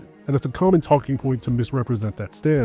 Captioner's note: none